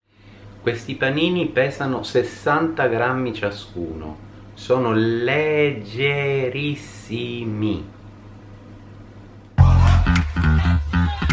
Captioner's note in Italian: Applauso